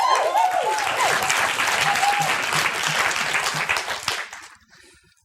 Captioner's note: applause